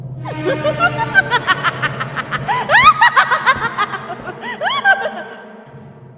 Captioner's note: laughs